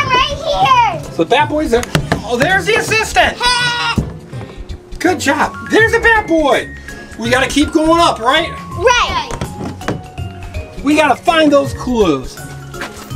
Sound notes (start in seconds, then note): 3.7 Bat Boy grunts